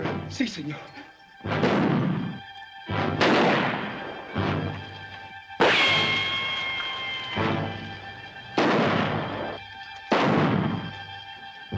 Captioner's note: gunshots - tense music